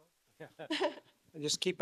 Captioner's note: laughs